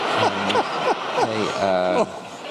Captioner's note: laughter